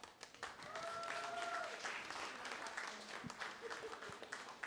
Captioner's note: cheering, applause